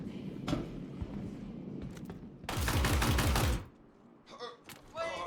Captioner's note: gunfire